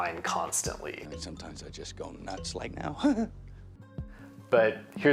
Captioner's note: laughs